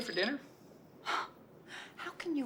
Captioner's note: sighs